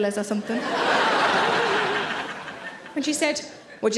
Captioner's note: audience laughing